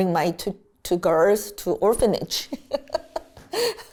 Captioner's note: laughs